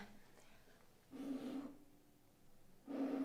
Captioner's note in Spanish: Sonido de aire